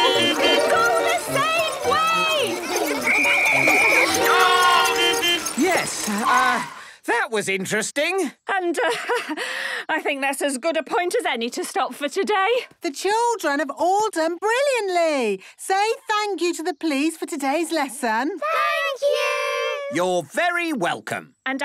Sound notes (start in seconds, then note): 0.0 beeping; 3.1 whistle blowing; 5.0 beeping